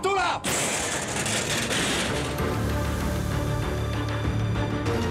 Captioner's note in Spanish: estruendo